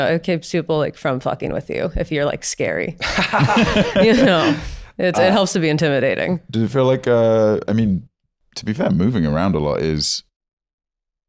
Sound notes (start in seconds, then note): 3.0 laughing